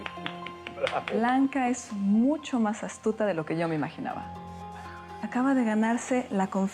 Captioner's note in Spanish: Aplausos